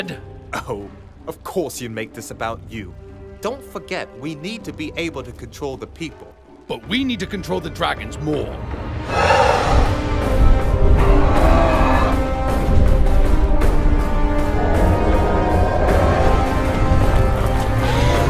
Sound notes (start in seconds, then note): 10.8 multiple Dragons roaring